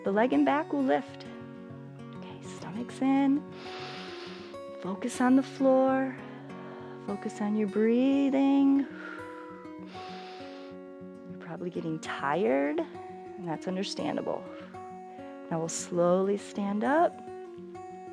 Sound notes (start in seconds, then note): 3.5 inhales; 8.9 exhales and inhales